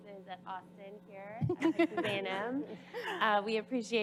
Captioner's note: panelist laugh